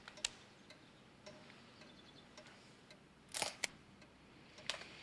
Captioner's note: clock ticks